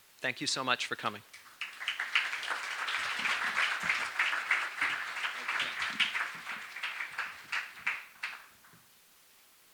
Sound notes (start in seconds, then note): 1.3 applause